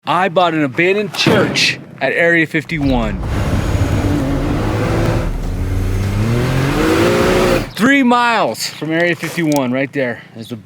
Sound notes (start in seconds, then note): 2.7 engine revving